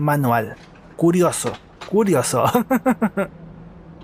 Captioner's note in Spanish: risas